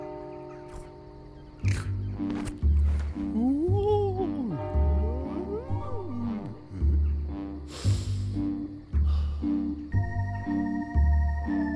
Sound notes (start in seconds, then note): 2.3 playful music; 3.3 ghost babbles; 7.6 sniffs